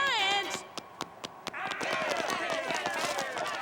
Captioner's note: mob screaming